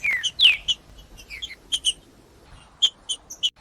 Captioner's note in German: trinca ferro cantando